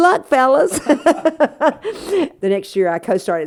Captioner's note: laughter